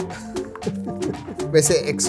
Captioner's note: laughs